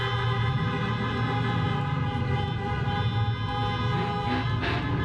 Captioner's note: car engine revving